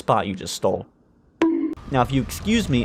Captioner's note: boink